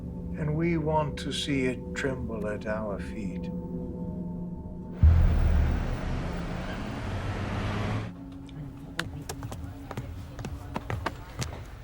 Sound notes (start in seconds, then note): 5.0 car engines revving; 6.5 birds chirping